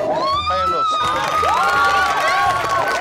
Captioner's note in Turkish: Sevinç çığlıkları